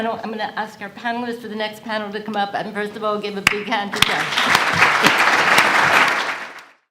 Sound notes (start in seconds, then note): 4.0 audience applauds